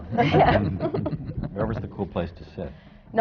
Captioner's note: laughter